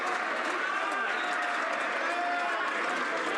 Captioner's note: some Applause